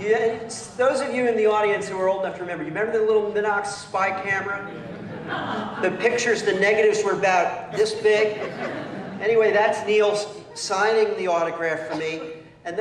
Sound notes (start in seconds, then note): 4.6 laughter